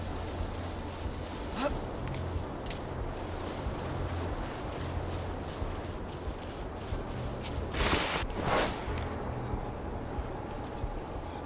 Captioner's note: thunder rumbling